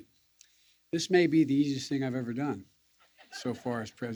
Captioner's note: laughter